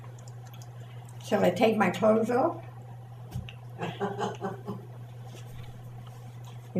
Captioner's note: laughs